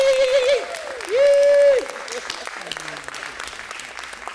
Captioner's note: shouts